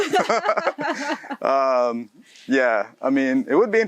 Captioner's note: both laughs